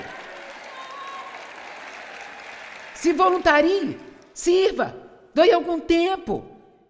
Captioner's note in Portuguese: audiência aplaude